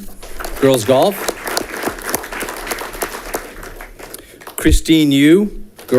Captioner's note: audience clapping